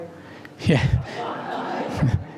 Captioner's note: laugh